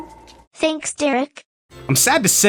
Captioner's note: synth voice